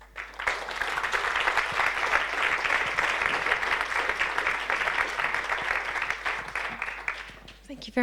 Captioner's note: audience applause